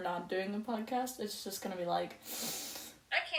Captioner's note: inhales